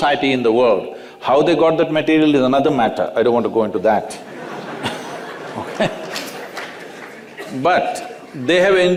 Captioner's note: laughter